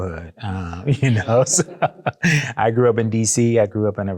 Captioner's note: laughs